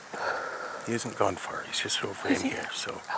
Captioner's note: sighs